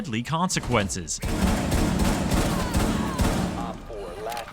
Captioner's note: gunfire